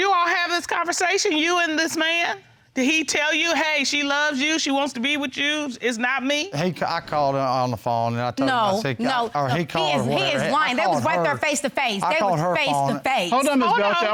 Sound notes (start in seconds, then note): none